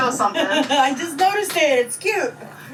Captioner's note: laughs